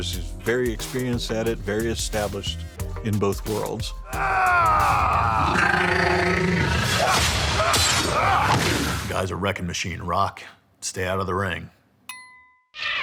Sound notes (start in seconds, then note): 4.3 yelling; 5.6 alien yelling